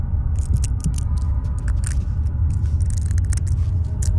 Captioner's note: scratching